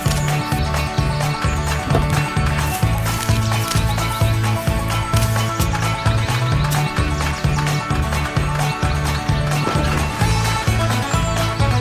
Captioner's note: applause